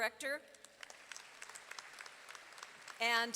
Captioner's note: audience applauding